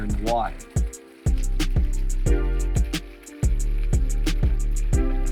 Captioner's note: water rushing